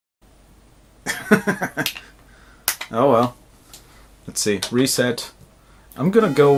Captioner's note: laughter